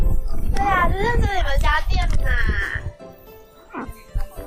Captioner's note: in mandarin